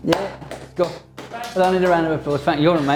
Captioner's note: applause from team